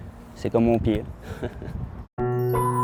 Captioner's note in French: petit rire